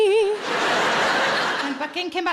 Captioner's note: audience laughing